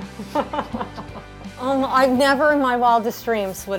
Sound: laughter

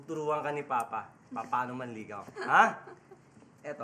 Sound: chuckles

